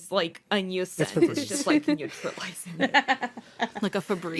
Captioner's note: laughter